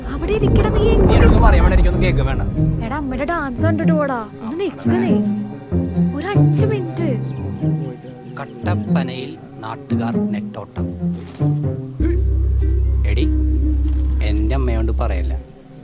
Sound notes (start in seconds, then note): 8.5 blabbering